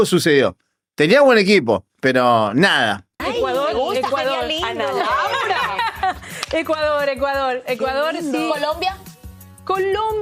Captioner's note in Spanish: risas